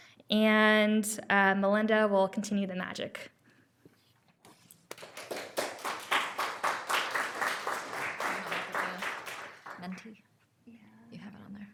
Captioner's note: applause